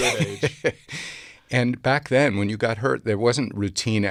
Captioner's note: laughs